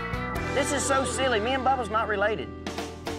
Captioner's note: none